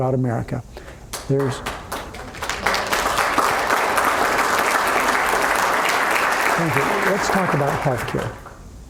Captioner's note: applause